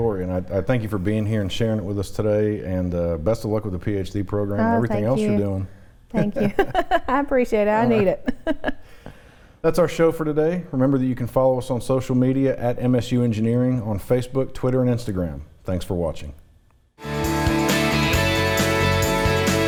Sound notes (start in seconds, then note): 6.1 chuckles; 17.0 upbeat music